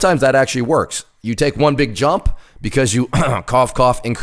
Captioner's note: throat clearing